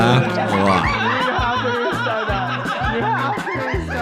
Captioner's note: all laughing